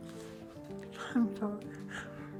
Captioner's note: sobbing